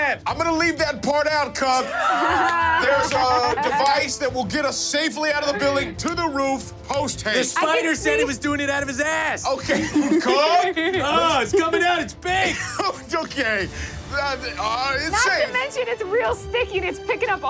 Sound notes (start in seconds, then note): 1.7 laughs loudly; 1.8 laughs; 9.4 chuckles; 9.5 everyone chuckles; 13.3 laughs